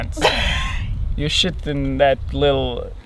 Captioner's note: laughs